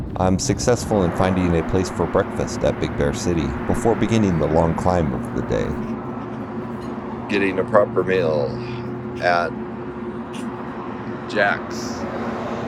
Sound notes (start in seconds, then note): none